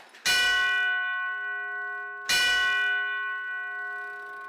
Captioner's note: bell ringing